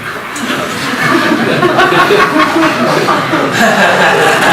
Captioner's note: audience laughs